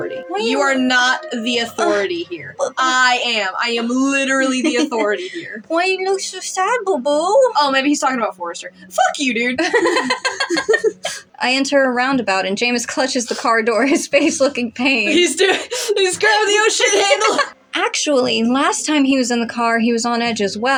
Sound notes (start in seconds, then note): 3.6 chuckle; 9.7 chuckle; 9.7 laugh; 16.3 laugh; 16.9 snicker